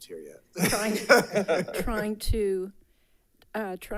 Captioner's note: laughs